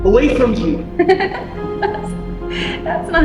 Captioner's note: Rebecca laughs